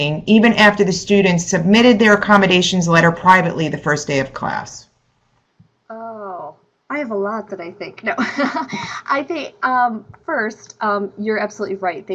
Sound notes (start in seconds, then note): 8.2 laughs